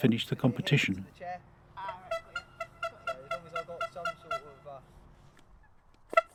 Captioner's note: distant horn